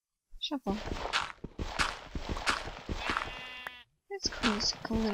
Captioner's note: gritty digging noises